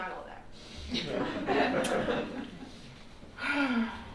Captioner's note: laughter